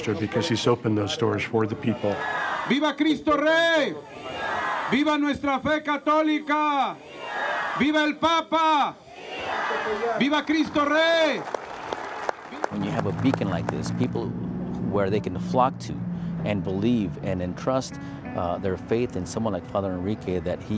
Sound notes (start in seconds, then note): 2.4 speaking in foreign language; 11.2 clapping